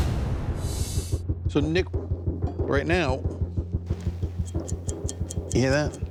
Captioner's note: flicking blade